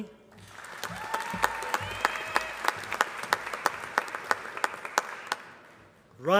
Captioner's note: applause